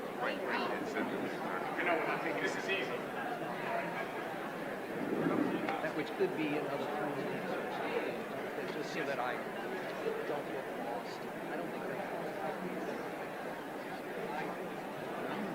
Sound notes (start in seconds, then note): 2.5 indistinguishable chatter